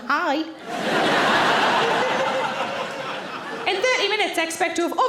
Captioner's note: audience laughing